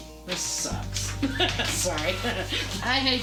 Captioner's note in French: Rires